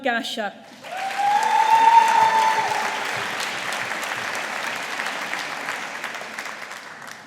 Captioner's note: audience applauding